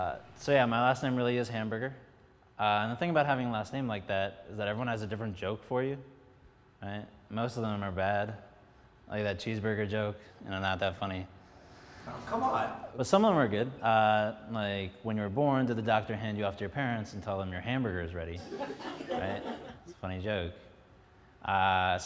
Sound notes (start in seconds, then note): 18.4 some laughs